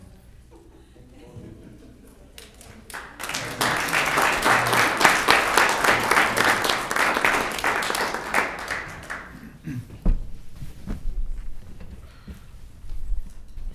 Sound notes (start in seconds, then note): 2.4 applauding